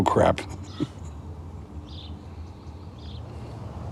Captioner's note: chuckling